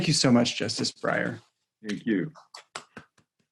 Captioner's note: claps